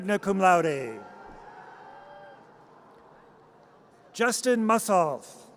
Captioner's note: audience cheers